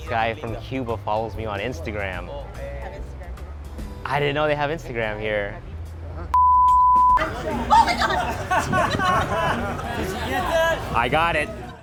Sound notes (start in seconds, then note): 6.4 beeping; 7.2 laughing